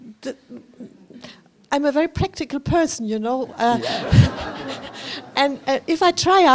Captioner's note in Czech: smích